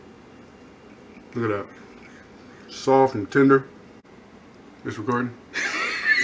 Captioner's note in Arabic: يضحك